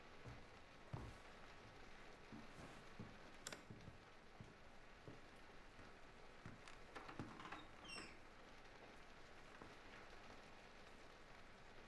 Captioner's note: footsteps ascend stairs